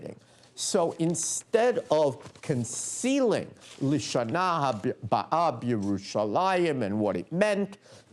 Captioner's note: non-english speech